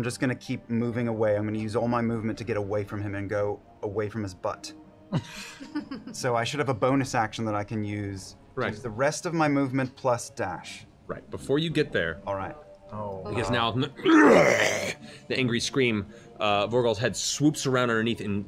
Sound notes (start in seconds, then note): 14.0 roars